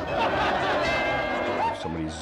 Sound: cymbal crashing; bell dinging

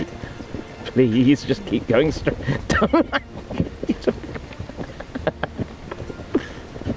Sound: laughter

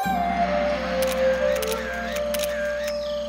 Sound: photography sounds

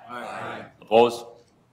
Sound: multiple voices

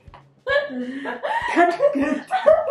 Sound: laughing

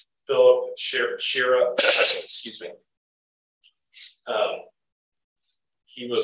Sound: cough

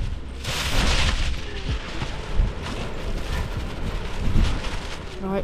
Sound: rustling & fixing

